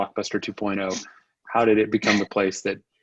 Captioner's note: chuckles